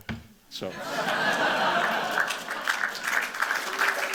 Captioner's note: laughter and applause